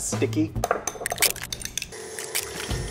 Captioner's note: egg cracks; mixer whirs